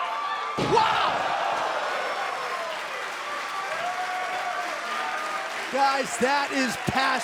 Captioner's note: crowd cheering